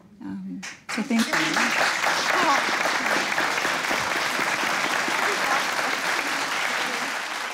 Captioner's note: applause